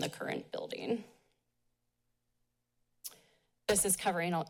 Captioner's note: pause